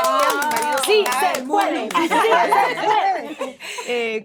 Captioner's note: applause